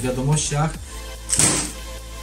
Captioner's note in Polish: shot